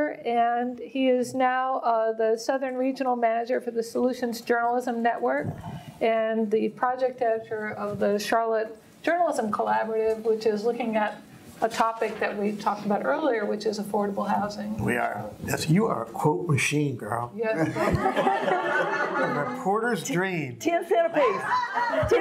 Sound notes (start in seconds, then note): 17.5 audience laughing